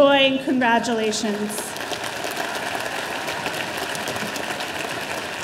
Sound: audience applauding

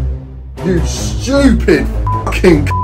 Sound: beep

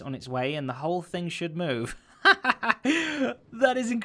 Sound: laughing

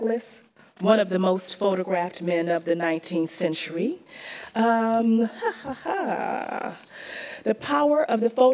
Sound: laughs to herself

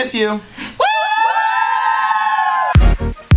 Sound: cheers

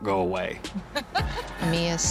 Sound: mia laughs

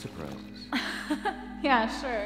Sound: laughs

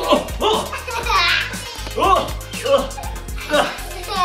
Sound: laughing

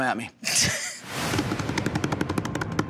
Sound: laughs; hands drumming on table

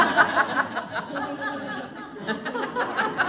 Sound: laughter

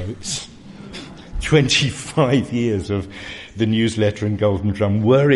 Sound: laugh

